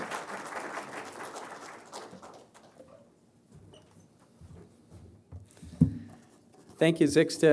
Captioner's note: applause